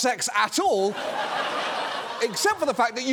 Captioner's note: audience laughing